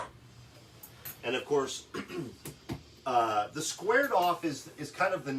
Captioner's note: clears throat